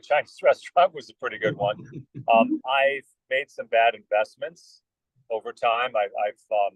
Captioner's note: laugh